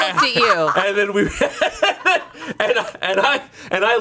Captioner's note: laughs